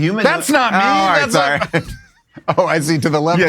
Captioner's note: laughs